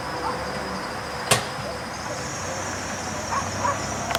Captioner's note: van accelerates; click of mailbox